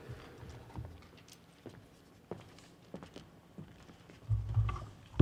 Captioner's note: footsteps